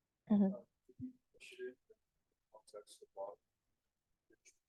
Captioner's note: student speaking faintly